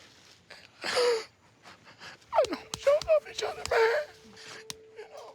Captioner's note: crying